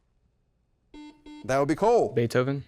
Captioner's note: double beep